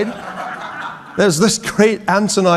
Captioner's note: audience laughing